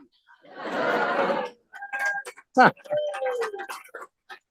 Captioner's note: audience applause, cheers